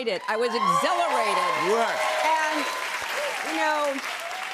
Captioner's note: cheers and applause